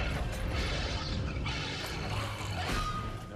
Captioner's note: snarling